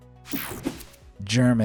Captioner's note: soft upbeat music; air whooshing